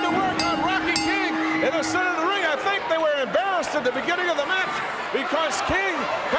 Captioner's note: bell ringing